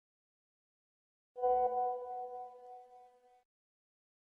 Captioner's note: message alert tone